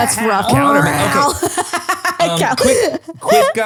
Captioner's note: laughter